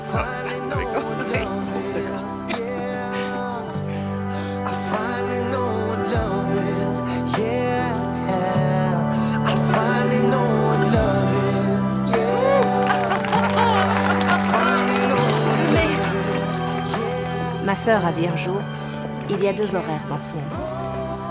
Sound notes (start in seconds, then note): 3.5 laughing; 4.5 soft music; 12.2 applause